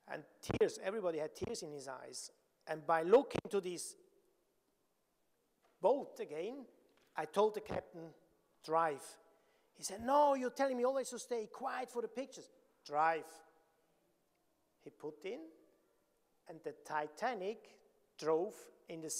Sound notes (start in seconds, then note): none